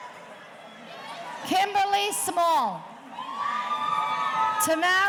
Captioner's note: audience cheering